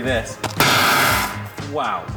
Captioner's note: metal box clangs